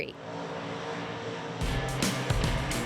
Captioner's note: engine running